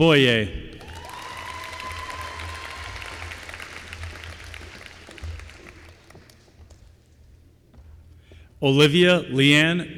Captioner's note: applause